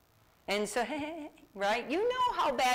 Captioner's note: laughs